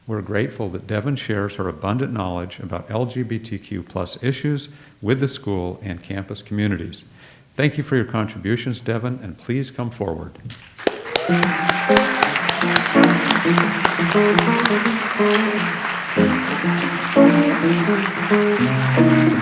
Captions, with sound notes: We're grateful that Devin shares her abundant knowledge about LGBTQ+ issues with the school and campus communities. Thank you for your contributions Devin, and please come forward. (audience applauds) (light jazz music)